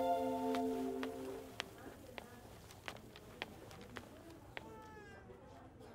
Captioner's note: Footsteps